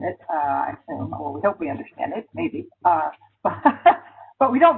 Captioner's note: laughs